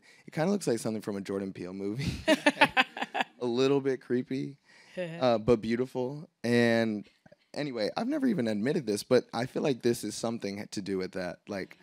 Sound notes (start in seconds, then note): 2.0 laughs; 2.4 audience laughing